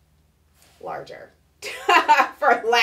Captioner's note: laughing